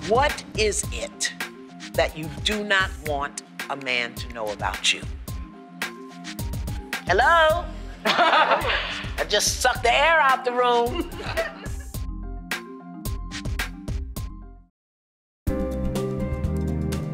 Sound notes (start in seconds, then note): 8.0 laughter; 11.0 laughter